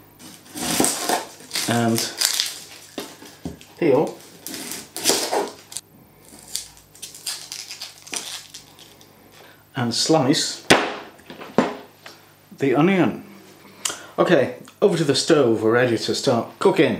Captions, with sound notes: And peel… And slice… [ BLAM ] the onion. Okay over to the stove. We're ready to start cooking